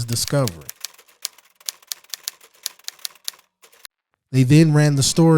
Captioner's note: typewriter clicking